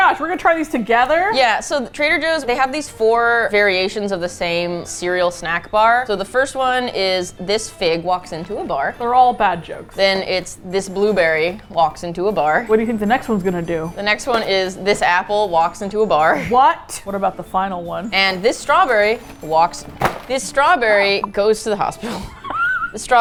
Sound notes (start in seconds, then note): 12.8 dryly; 16.2 laughs; 22.0 both laugh; 22.0 laughs hard